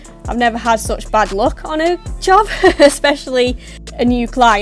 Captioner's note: laughs